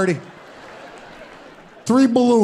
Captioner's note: audience laughing